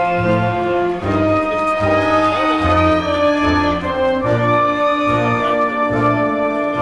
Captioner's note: crowd cheering; triumphant music continues